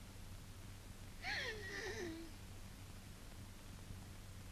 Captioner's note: mom gasps